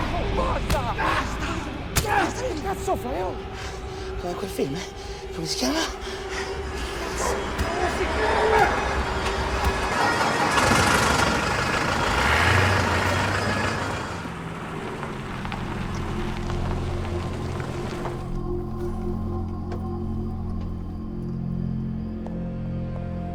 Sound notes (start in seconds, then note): 7.5 siren wailing; 10.6 car engine starts; 12.5 car revving; 18.3 ominous music playing